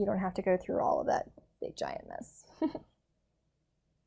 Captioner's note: chuckles